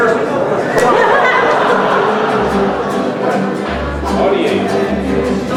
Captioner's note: crowd laughing